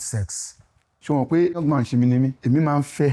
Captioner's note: speaking in foreign language